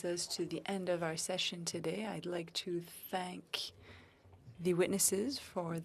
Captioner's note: speaking French